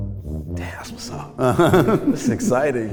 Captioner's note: laughs